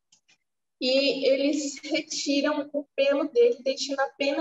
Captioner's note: speaking portuguese